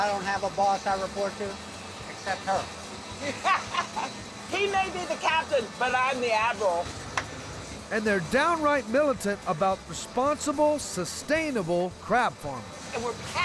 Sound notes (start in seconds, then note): 3.2 everyone laughing; 5.5 claps